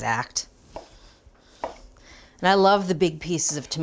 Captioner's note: knife slicing